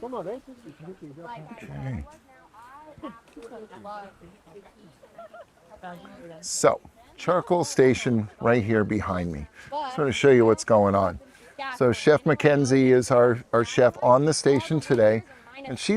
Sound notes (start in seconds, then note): 4.9 woman laughing